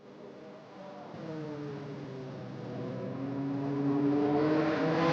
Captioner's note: engines rumbling